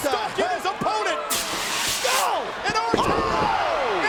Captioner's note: fire extinguisher hisses; audience cheers